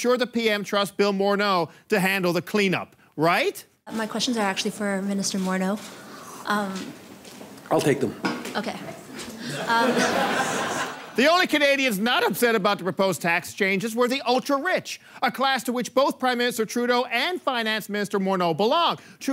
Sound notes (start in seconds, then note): 9.4 laughter